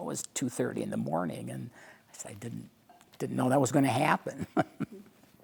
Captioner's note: laughing